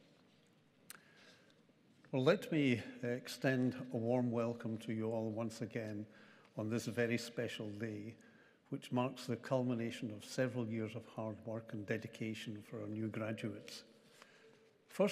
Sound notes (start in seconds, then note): none